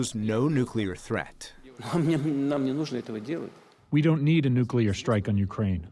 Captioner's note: through translator